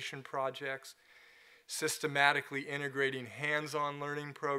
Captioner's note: none